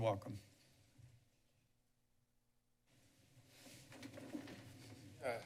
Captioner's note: silence